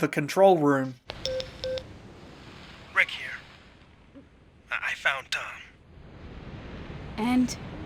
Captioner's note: radio beeping